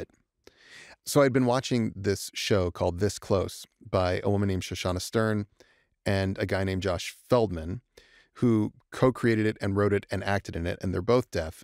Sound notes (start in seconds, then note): none